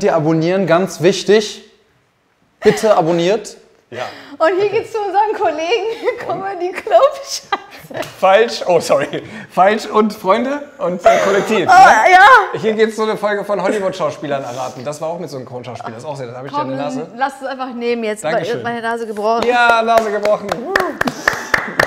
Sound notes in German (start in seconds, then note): 7.6 lacht